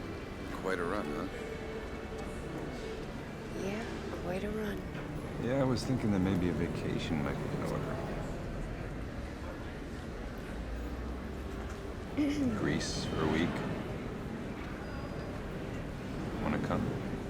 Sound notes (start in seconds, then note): 12.4 Nadia clears throat